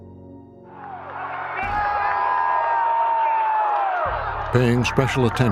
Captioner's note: crowd cheering on video